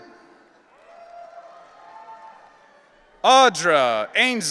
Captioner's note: audience cheering